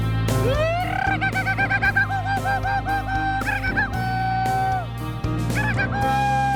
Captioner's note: Simon cheers